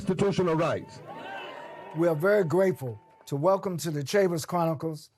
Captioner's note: audience cheers